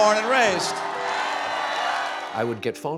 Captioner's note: audience cheers and applauds